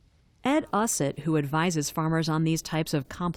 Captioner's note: voice-over